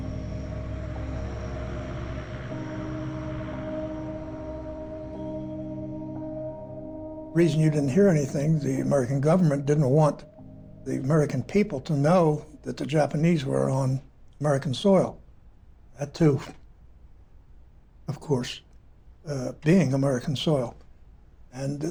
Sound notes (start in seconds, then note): 2.7 airplane propellers whirring